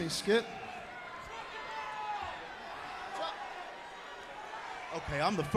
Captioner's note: crowd chatter